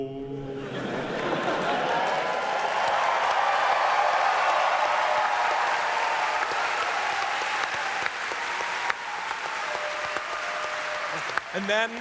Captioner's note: audience cheers